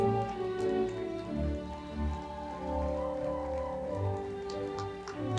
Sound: audience cheering and clapping

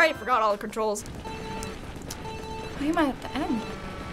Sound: chime; countdown beeps

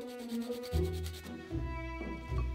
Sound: grating

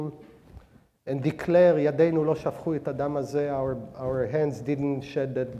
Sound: speaking hebrew

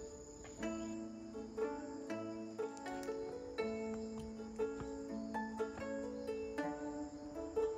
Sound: crunch, crunch

